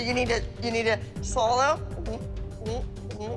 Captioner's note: gulping